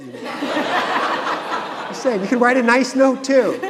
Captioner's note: audience laughing